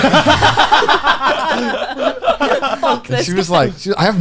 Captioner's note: laughing